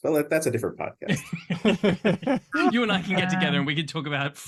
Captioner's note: laughter